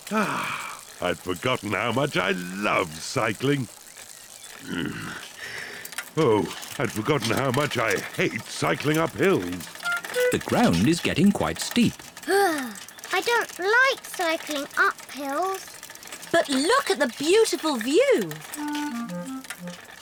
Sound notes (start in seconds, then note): 0.1 sighs happily; 4.6 grunts; 12.2 groans